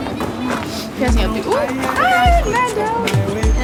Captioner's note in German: Leise Gesprächsfetzen